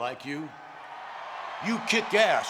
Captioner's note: crowd cheering